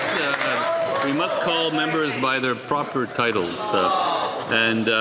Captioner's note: some Applause